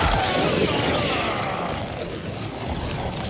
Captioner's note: screaming